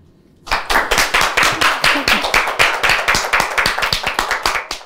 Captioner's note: clapping